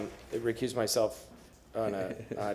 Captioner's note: laughter